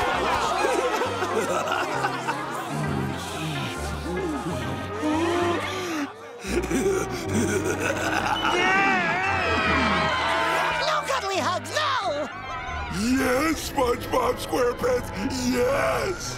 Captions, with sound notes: [laughing] [laughing evilly] [screaming] No, Cuddle E. Hugs, no! Yes, SpongeBob SquarePants, yes!